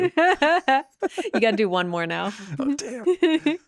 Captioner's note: laughing